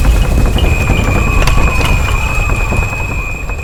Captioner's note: rattling